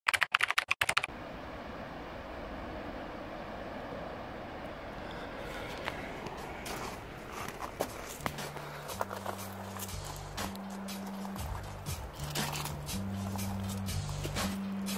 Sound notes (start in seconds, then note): 5.1 heavy breathing and footsteps